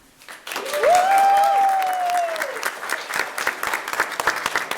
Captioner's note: room cheering